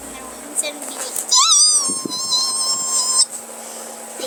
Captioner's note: high pitched